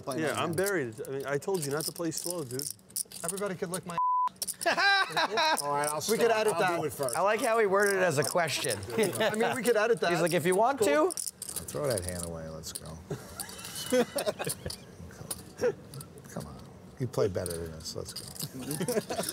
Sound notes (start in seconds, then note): 4.6 laughter